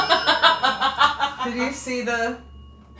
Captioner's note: investigators laughing; bell dings